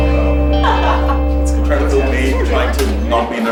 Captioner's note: laughs